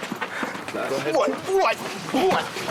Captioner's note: scuffling